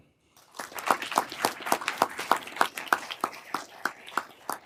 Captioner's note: everyone applauding